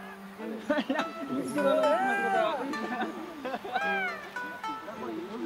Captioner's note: speaking in foreign language; tranquil music